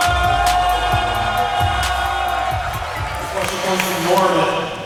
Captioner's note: audience cheers